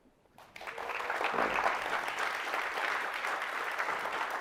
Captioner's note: crowd applauding